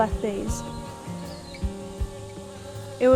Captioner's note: bees buzz